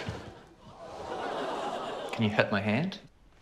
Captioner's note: crowd groans